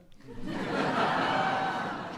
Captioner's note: laughter